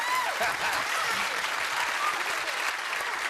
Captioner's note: laughs